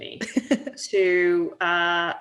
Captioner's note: laughing